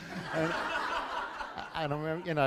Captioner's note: laughter